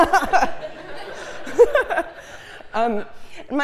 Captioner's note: laugh